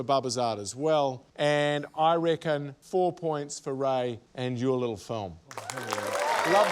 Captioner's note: cheering, applause